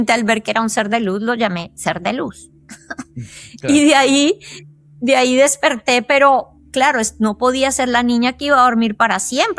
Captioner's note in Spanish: risas